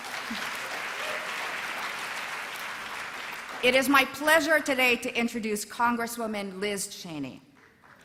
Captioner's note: applause